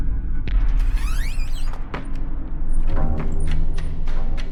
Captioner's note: door creaks; clatters; dark, suspenseful music